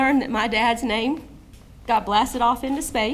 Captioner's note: none